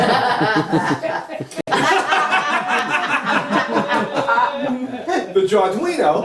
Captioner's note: laughter